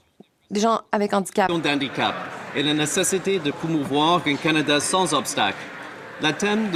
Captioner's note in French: voix de l'interprète